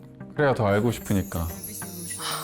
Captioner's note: flirting like breathing sound effect